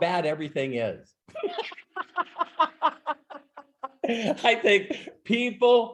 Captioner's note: laughing